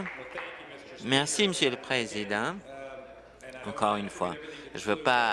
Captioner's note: applause